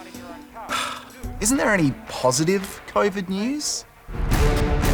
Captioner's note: sighs; dramatic music plays